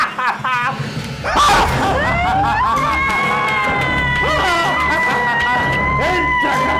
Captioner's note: and even more evil laughter; more evil laughter; screams